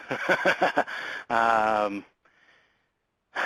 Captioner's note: laughs